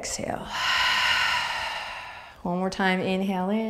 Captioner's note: exhaling